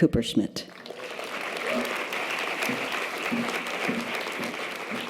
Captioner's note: audience applause